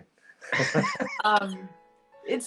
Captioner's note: all laugh